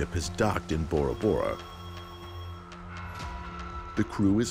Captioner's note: phone ringing